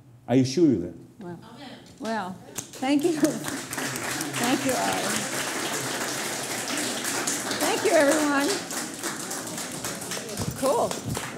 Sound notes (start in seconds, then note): 5.0 applause